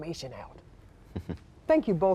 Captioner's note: chuckles